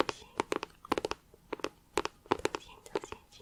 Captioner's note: tapping on plastic